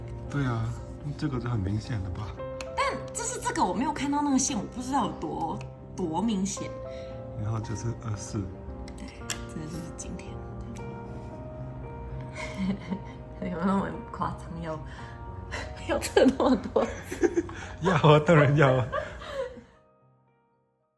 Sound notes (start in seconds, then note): 16.0 laugh